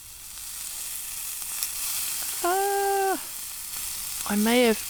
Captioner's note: sizzle